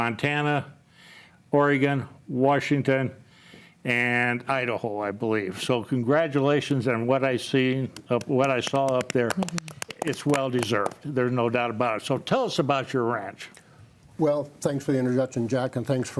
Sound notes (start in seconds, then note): 8.0 panelist applauds